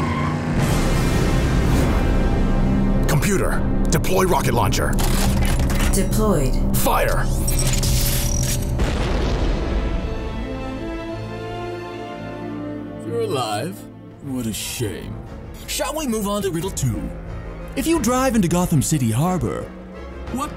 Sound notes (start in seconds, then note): 0.2 dramatic music; 8.8 rockets exploding; 12.2 dramatic music